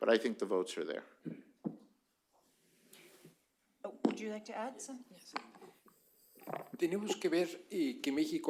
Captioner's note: spanish